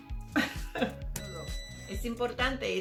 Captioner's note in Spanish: sonido: risa ahogada; sonido: piiii